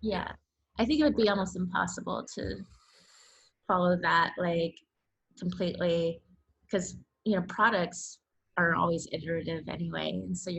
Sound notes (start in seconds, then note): none